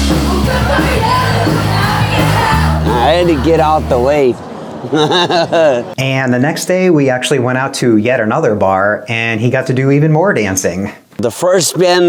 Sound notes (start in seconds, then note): 4.8 laughing